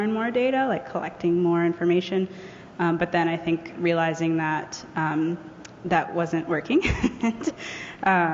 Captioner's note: laughs